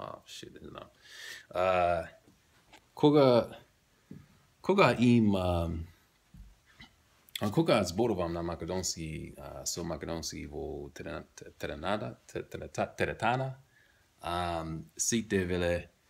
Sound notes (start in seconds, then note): 4.8 macedonian